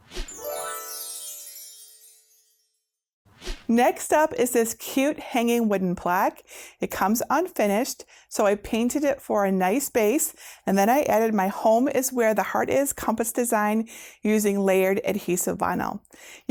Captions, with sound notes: (stars twinkling) (air whooshing) Next up is this cute hanging wooden plaque. It comes unfinished, so I painted it for a nice base. And then, I added my "Home is Where the Heart is" compass design using layered adhesive vinyl.